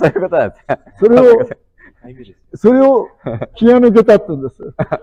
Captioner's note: laughs